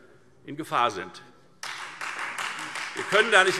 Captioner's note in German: Beifall Freie Demokraten